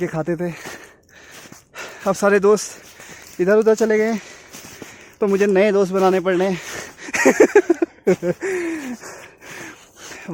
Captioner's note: laughs